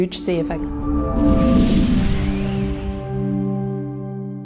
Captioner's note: whooshing